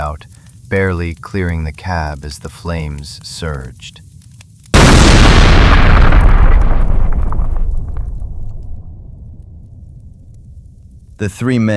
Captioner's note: SFX: loud explosion